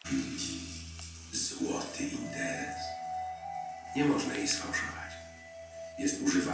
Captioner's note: man speaking in foreign language